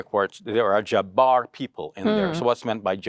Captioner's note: foreign language